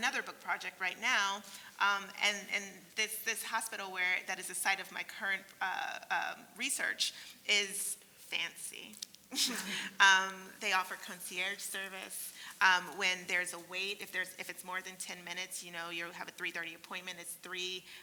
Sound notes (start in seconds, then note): 8.9 laugh